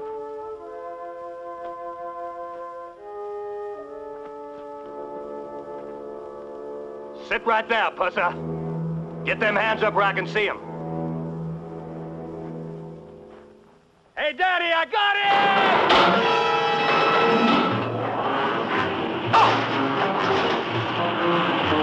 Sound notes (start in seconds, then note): 0.2 dramatic music; 16.8 gunshots firing; 18.8 dramatic music